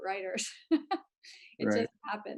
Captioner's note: laughs